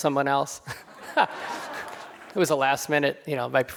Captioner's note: crowd laughing